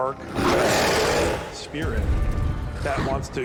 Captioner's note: growling